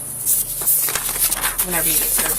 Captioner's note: papers shuffle